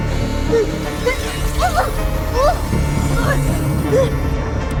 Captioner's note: mechanics whirring